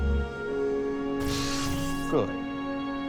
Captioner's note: light sabers extinguishing